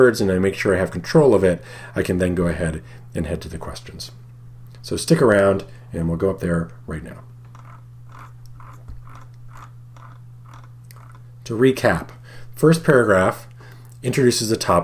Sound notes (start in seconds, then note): 8.0 mouse scrolling